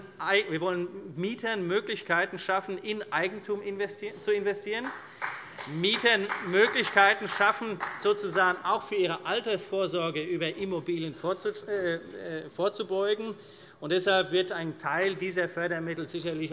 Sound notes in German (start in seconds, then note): 4.8 Beifall